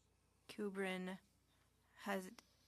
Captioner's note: speaking French